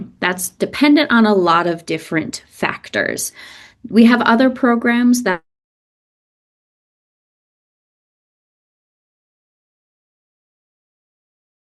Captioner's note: audio cuts out for a time